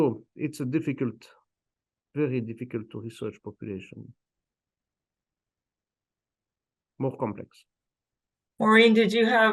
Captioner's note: pause